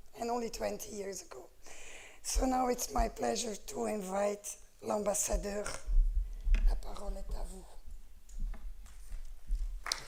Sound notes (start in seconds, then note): 7.8 french; 8.8 applause